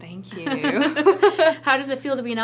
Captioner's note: laughter